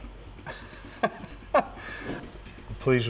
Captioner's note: laughs